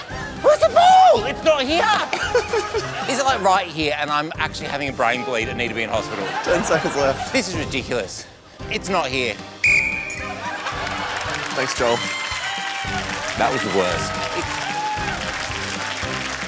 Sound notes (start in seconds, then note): 1.8 laughs; 9.6 blows whistle